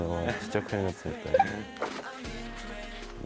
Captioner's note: still laughing